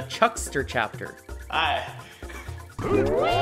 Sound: laughs

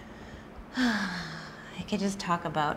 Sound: sighs

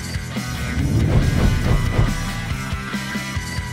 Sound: upbeat rock music; whooshing

